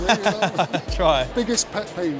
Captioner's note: laughing